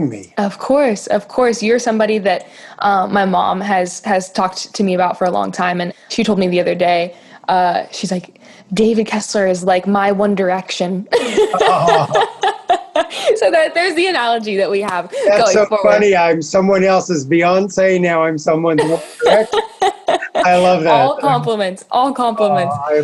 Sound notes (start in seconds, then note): 11.1 laughing